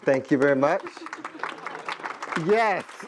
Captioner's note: applause